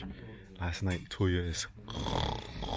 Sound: snoring sounds

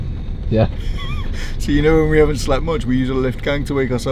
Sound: laughs

